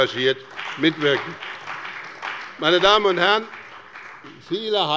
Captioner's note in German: Beifall bei dem BÜNDNIS 90/DIE GRÜNEN und der CDU